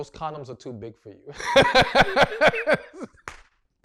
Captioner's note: laughs